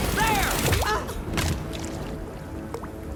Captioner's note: Atta Grunts